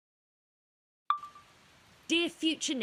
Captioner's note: soft guitar music fades out; chime of a phone recorder turning on; rush of rain outside